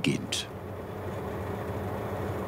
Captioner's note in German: Ratternde Geräusche